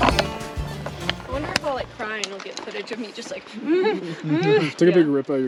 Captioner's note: deep crying noises